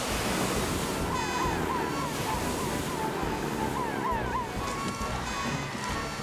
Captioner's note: heroic Music; sirens Wailing